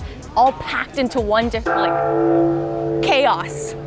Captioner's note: clangs